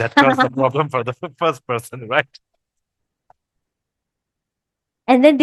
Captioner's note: laughters